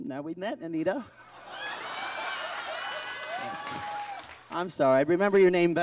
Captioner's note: audience laughs